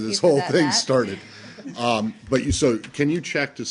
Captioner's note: laughter